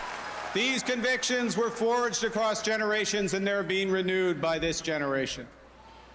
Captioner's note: cheering and Applause